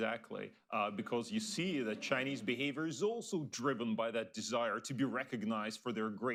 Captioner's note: laughter